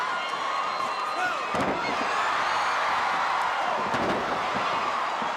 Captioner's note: audience cheering